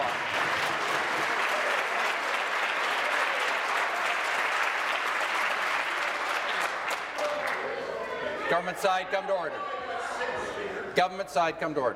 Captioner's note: applause